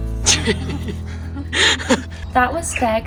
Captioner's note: laughing